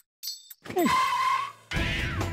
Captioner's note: tyres screeching